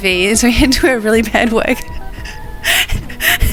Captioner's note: laughing